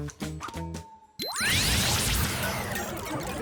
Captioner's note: energy hums